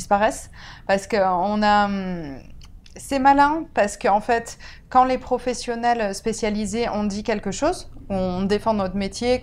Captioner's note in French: ironique